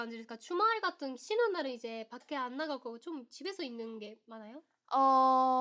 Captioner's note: asking the same question in Korean